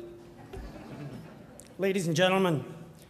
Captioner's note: crowd laughs